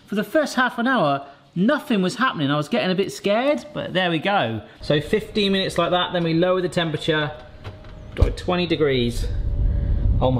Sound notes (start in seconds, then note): none